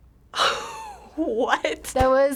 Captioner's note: silence; chortles